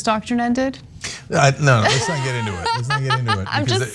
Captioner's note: laugh